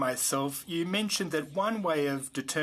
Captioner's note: speaking French